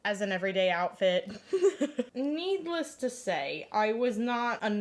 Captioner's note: laughs